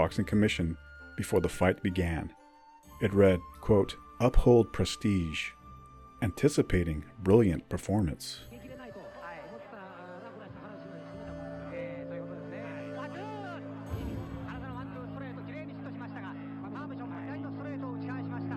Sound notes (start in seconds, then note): 8.0 crowd cheers